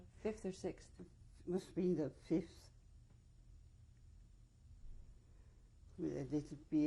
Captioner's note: pauses for 3 seconds